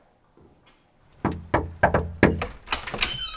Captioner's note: knocking on door